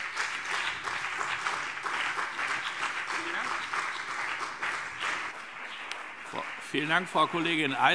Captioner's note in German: Beifall BÜNDNIS 90/DIE GRÜNEN und vereinzelt CDU